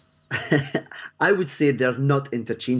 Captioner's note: chuckles